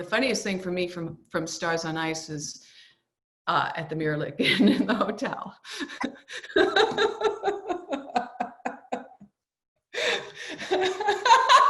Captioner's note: both laughing